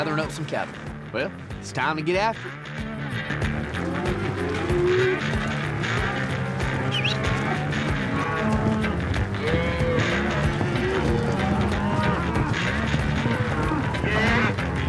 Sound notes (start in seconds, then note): 7.6 whistles